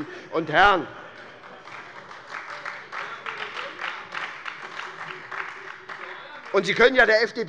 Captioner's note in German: Beifall bei Abgeordneten der SPD